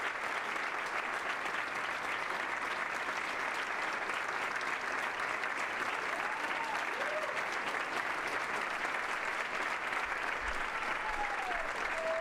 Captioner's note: applause; cheers and applause